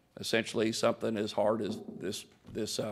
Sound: knocks on podium

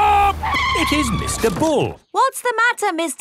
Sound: tires screeching

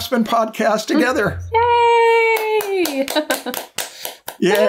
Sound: chuckles

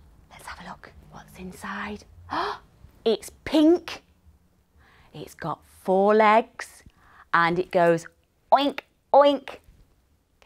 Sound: gasps

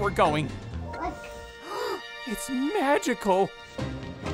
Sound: gasping

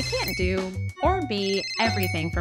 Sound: app notification chiming

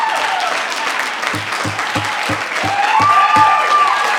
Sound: gavel pounding; audience applause continues

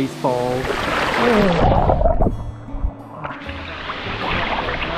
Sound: water gurgles

